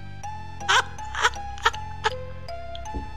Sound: still Laughing

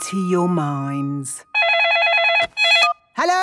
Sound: phone ringing

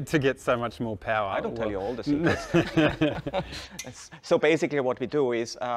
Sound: laughing

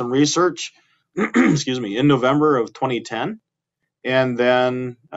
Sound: clearing throat

